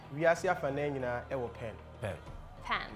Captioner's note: man speaks foreign language